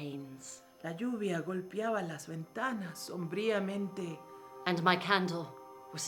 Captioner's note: speaking in foreign language